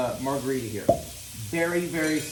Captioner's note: bottle pops